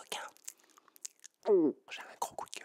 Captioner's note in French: bruits de bouches